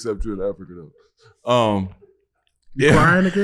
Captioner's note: crew member laughing